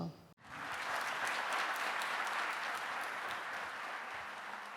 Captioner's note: audience applauding